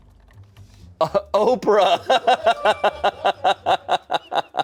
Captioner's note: laughs